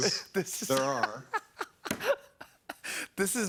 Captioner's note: laughs